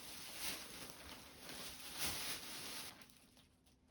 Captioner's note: rusting sound